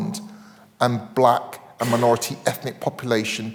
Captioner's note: attendee coughing